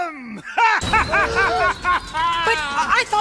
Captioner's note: wicked laughing